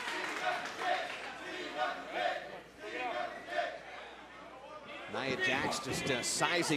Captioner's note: chanting